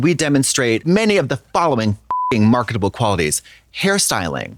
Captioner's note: beep